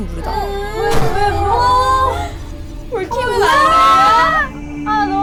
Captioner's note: the door suddenly closed